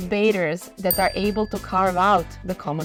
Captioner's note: bell dings